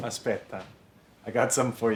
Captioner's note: speaks italian